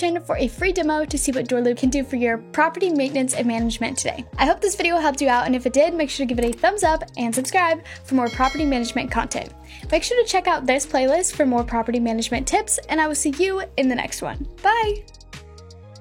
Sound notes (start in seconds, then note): 8.2 bell rings